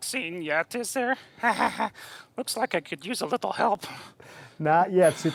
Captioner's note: chuckling